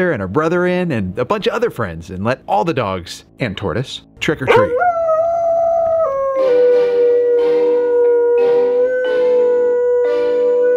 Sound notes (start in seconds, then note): 4.4 dog howls